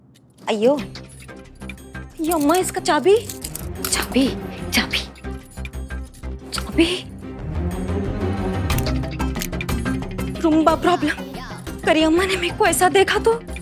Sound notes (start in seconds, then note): none